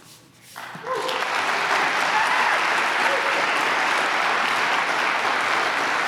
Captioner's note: applause